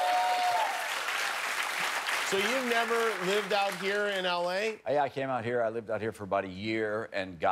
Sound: cheers and applause

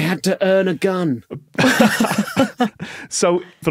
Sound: others laughing

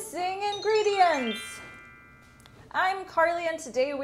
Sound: jingling chimes

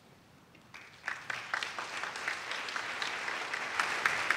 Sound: audience claps

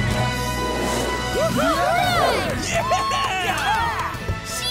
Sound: cheering

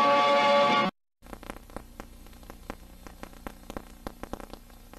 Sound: VHS static

